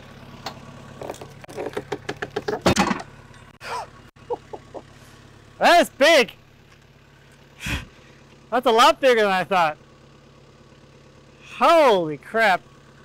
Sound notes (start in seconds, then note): 1.5 wood thuds; 4.1 laughs